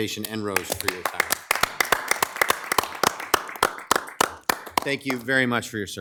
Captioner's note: attendees applauding